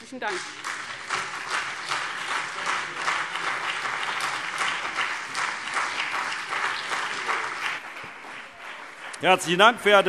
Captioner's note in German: Beifall CDU und BÜNDNIS 90/DIE GRÜNEN